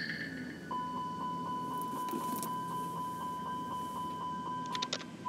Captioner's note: computer ringing